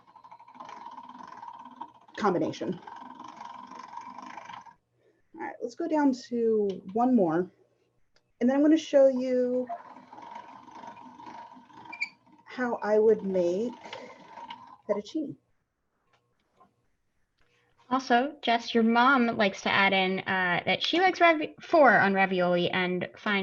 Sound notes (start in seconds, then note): 9.0 machine creaking